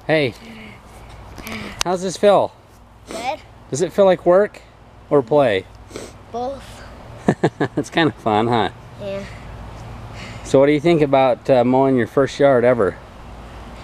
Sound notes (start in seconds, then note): 7.2 laughing